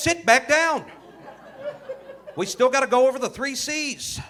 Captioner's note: audience laughing